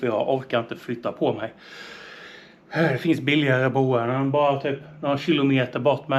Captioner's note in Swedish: drar efter andan